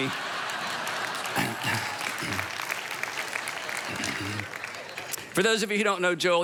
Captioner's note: audience applauds; man clears throat